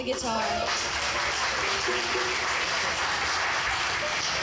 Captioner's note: audience cheering